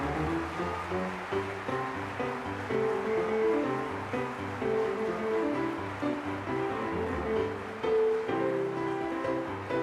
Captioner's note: applause